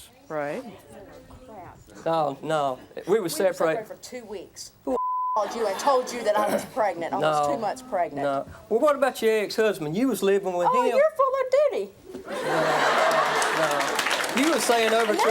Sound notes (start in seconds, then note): 5.0 beep; 12.3 audience laughs